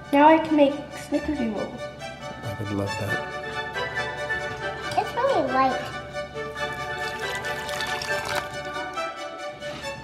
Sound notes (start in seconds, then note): 2.0 upbeat Christmas music; 6.4 water pouring